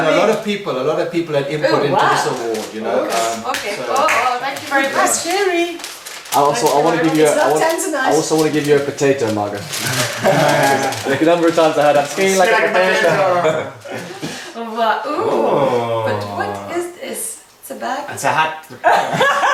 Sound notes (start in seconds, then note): 12.2 family chattering; 18.8 cheerful laughing